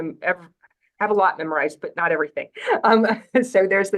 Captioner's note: laughs